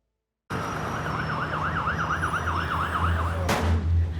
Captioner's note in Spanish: Sirenas; Disparo